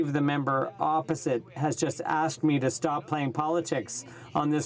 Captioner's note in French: voix de l'interprte